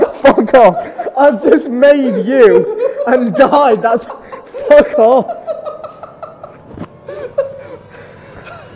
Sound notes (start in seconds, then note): 5.3 laughing